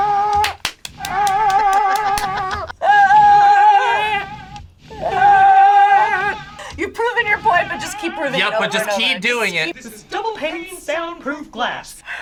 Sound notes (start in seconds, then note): 0.4 clapping; 2.9 shouting